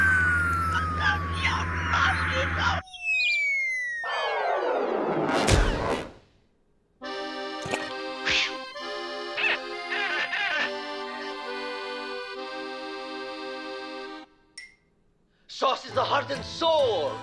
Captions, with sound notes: (sobbing) SAUCE IS THE HEART AND SOUL